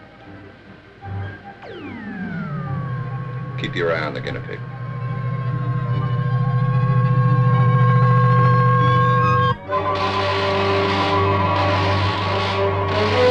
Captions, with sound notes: (controls whirring) - Keep your eye on the guinea pig. (dramatic music) (electricity crackling)